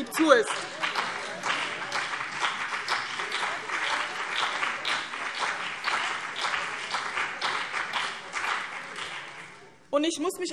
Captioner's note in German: Beifall BÜNDNIS 90/DIE GRÜNEN und CDU